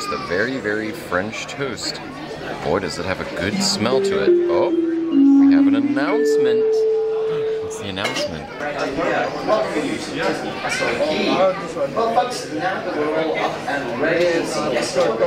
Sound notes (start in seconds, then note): 3.5 soothing bell